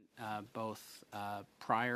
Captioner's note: speaking in French